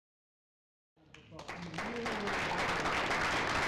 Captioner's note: applause